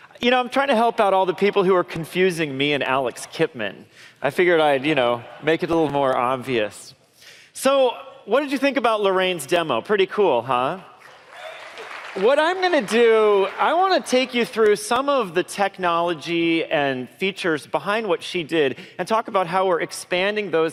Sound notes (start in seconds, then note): 11.0 applause